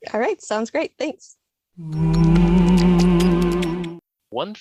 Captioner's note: sound effect